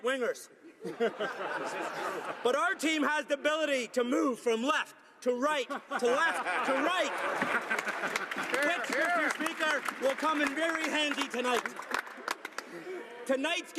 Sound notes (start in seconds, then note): 5.8 some laughter